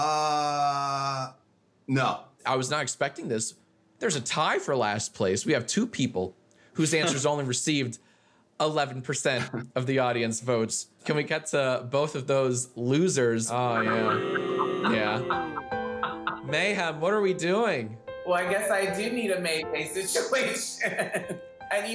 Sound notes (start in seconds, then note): 13.6 booing; 15.8 gentle music